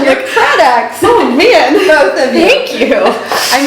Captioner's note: laughing